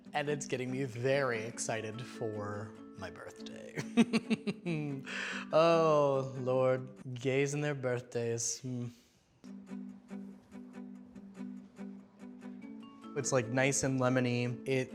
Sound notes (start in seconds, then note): 3.8 laughs